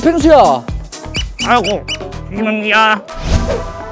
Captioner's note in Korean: 긁적긁적